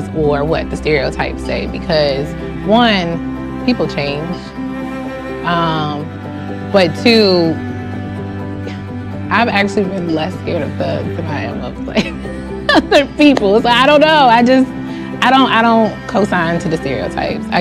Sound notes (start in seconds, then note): 11.8 laughs